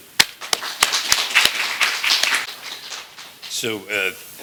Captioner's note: applause